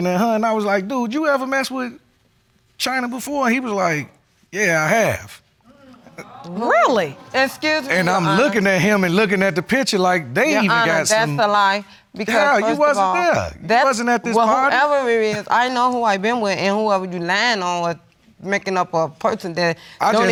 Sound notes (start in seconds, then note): 5.8 audience exclaims